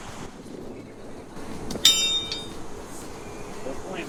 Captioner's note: horseshoes clanging